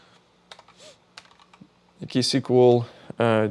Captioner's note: keyboard clicking